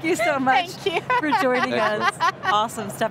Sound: laughing

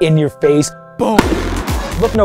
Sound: fireworks explode; energetic dubstep music

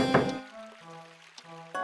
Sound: clock sound; piano sound; door slams

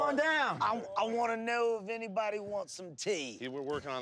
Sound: British accent

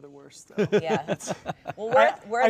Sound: laugh

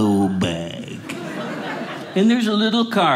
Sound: audience laughing

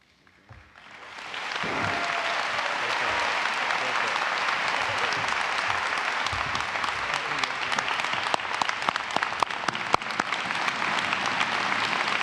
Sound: applause and cheering

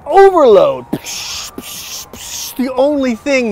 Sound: imitates explosion

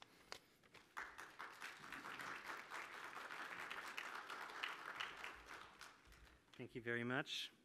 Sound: applause

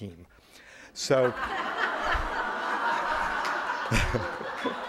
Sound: audience laughter

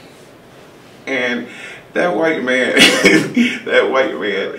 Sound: laughs

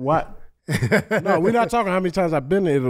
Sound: Metta laughs

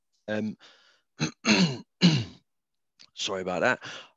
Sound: clears throat

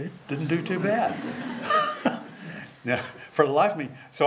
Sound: laughter

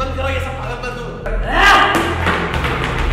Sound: loud yell

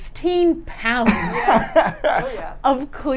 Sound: laughs

